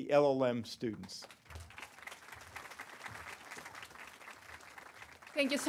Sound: applause

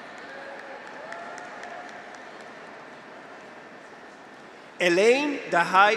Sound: audience applauds; graduates cheer

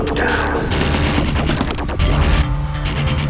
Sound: punching

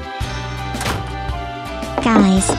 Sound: door slamming

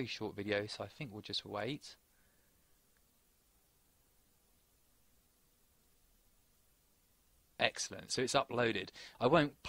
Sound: short Pause

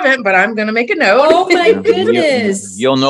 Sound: laughs

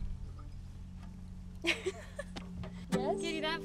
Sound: laughing

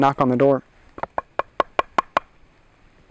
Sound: knocking

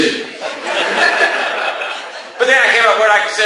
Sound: class laughs

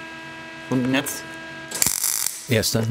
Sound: crackling

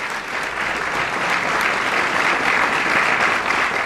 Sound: applause

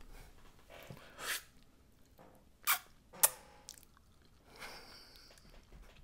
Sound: slurps and smacks mouth; laughing

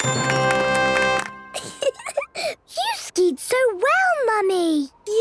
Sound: triumphant music; giggling

